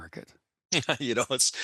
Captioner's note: laughing